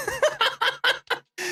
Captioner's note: laughing